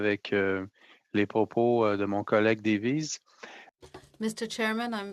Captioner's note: speaking French